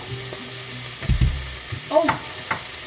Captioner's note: bam bam